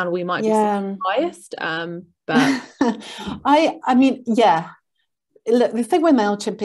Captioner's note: chuckles